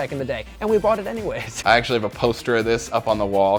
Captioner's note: laughs